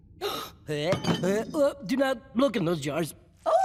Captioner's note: gasps, gags